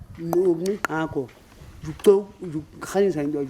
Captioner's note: non-english speech